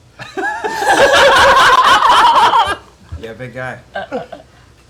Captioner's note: laughter